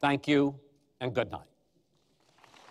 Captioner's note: applause